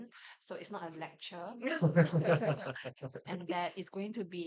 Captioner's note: laughs